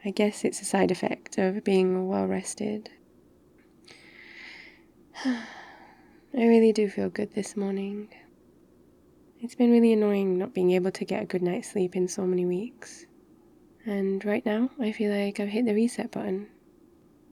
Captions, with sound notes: I guess it's a side effect of being well rested *sighs* I really do feel good this morning it's been really annoying not being able to get a good night's sleep in so many weeks and right now I feel like I've hit the reset button